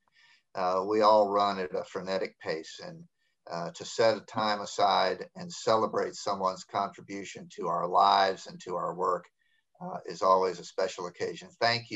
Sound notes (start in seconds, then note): none